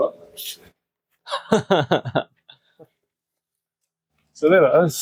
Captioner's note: laughs